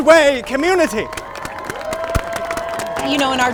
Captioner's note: cheering and applause